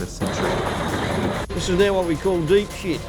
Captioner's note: train noise